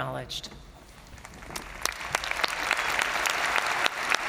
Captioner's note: crowd applauding